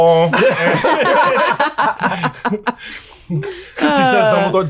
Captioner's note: all laughing